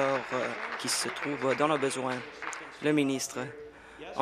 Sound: applause

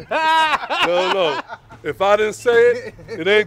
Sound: laughter

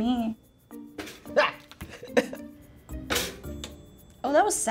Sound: laughs

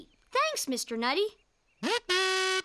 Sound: questioningly trumpeting

